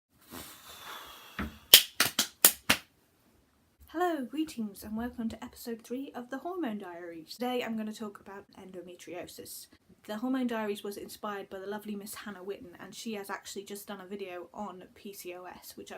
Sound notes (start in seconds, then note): 0.2 exhales; 1.7 clapping